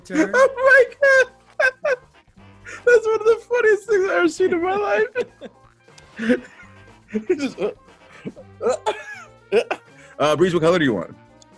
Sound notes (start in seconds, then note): 0.1 laugh; 6.0 laugh